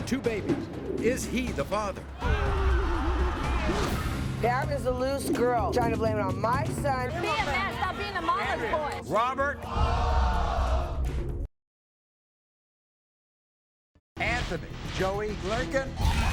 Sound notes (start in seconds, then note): 10.3 audience groans